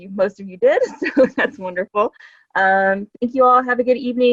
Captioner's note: chuckles